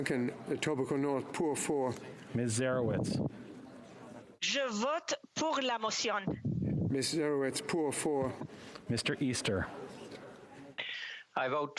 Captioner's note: speaking French